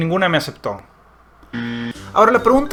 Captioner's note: wrong answer sound